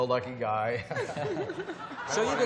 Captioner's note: chuckling